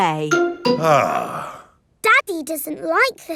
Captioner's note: sighs